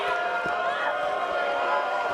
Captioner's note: cheers & boos